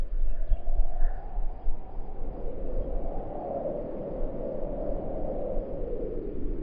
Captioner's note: wind blows harder